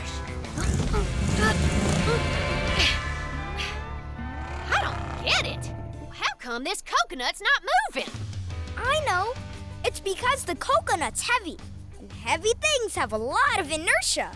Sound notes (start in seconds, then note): 0.4 grunting; 2.4 panting